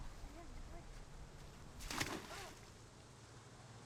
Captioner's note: splashing